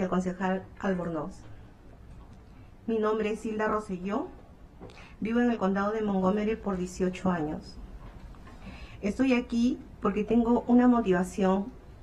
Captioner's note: speaking spanish